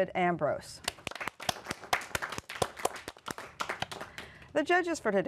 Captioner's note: applause